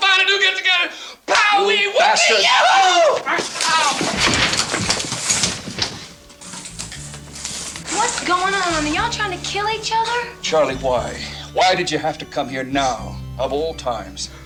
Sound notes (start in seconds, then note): 4.5 tree crashes; 5.7 light music